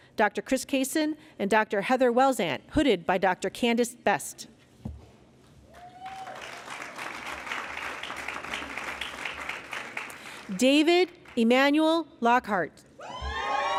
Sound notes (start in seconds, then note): 5.7 applause